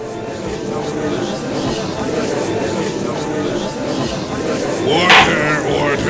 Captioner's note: gallery chattering!; gavel slams!